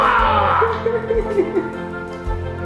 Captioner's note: laughing